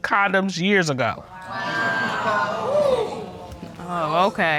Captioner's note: audience exclaiming